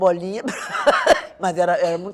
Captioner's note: laughter